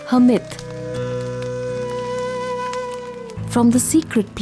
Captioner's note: bonfire; mysterious music